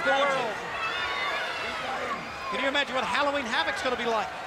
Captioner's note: crowd chatter